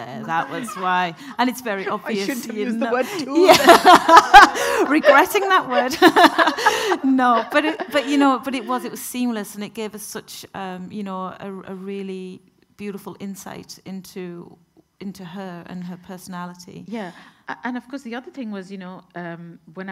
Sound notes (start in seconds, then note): 3.6 everyone laughing